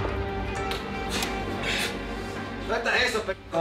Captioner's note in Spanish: sonido al abrir la puerta